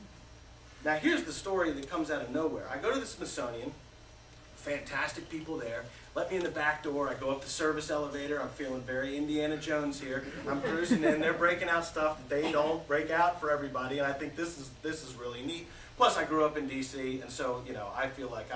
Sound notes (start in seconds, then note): 10.2 laughter